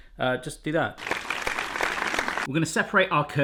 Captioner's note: applause